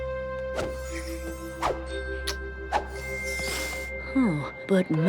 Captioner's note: smooching